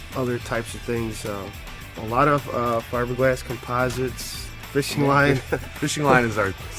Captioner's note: laughter